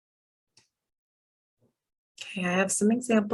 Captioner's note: pause